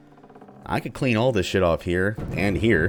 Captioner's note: thunder